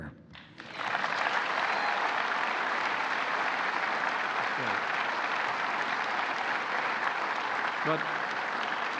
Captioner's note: applause